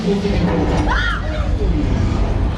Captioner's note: soundstage banging; people shrieking